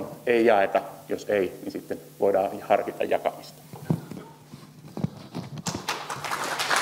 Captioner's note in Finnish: Yleisön taputuksia